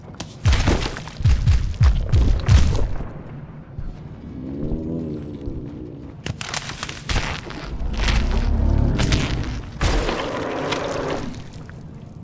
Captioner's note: gunshots